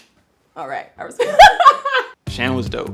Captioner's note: laughs